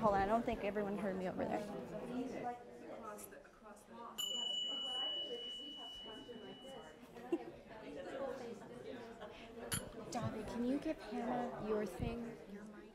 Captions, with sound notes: I don't think everyone heard me over there. [BELLS]